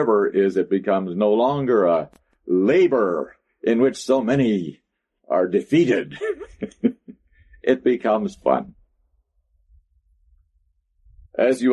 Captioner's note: laughs